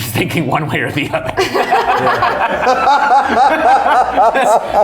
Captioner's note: all laughing